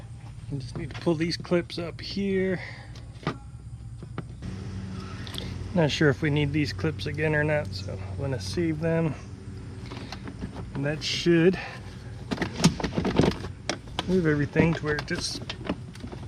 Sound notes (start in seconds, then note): 13.1 plastic shuffling